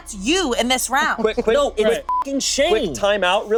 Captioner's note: beep